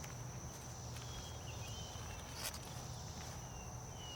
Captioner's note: birds singing